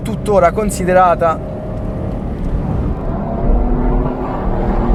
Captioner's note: EJ20 grows in RPM